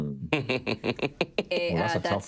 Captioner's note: laughing loudly